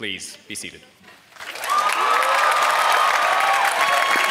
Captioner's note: applause